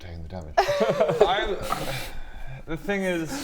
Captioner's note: sigh